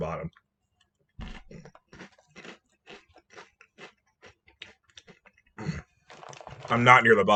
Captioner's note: final noms and grunts of satisfaction